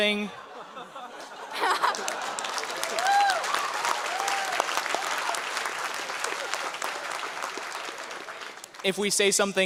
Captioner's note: audience laughter and applause